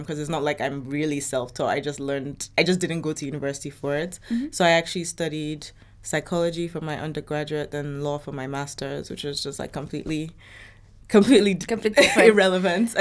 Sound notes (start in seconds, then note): 11.2 chuckles